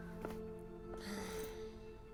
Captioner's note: Resopla